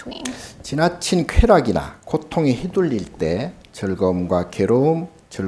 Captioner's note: speaking Korean